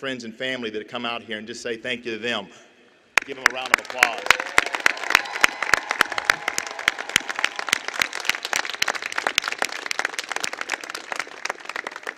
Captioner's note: applause